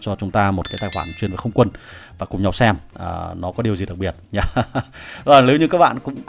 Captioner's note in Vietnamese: tiếng cười